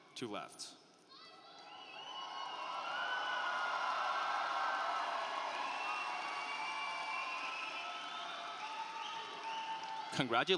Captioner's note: applause